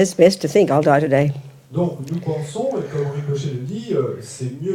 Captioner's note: French